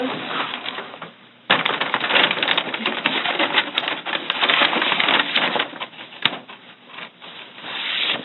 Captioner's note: paper bag rustling loudly